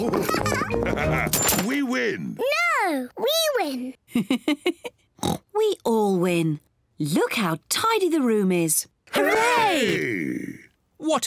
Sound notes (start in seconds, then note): 4.1 LAUGHS and OINKS